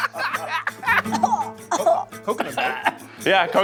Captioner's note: laughter; coughing